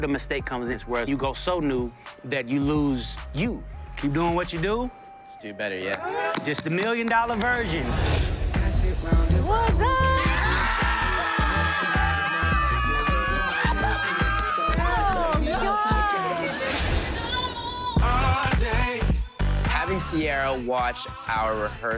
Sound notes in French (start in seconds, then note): 9.8 all screaming; 10.8 laughing